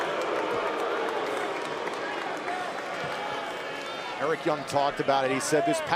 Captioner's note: crowd cheering